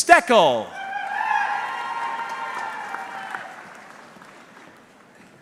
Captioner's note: audience cheering